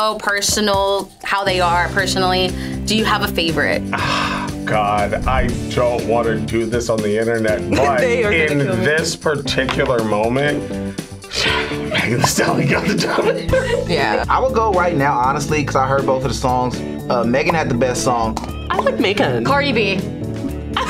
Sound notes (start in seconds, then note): 11.3 sighs; 11.3 laughs